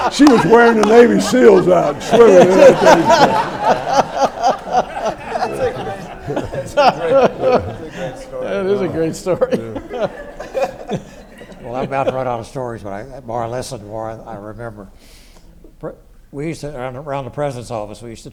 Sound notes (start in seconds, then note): 3.2 everyone laughs; 11.4 laughs